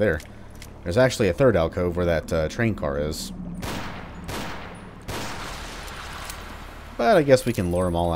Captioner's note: Colt banging